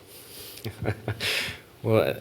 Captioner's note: laugh